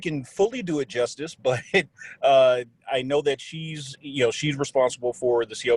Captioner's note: on phone